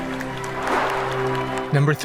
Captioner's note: whoosh